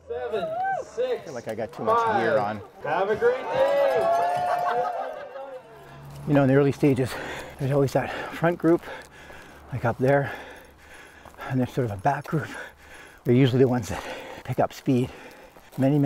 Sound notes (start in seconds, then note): 4.6 bells ringing; 4.6 participants laughing